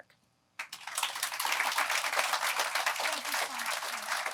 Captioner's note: applause